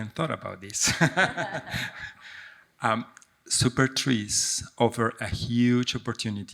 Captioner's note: laughs